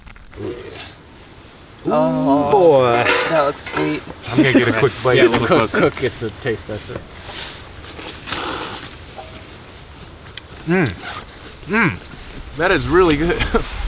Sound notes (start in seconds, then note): 2.0 all exclaim